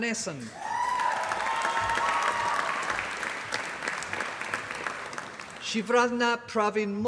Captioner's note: applause